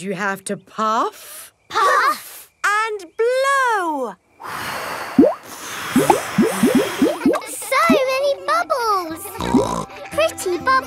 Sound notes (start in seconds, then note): 4.6 all blowing; 9.4 snorts